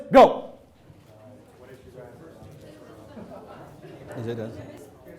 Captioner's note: assorted crowd discussion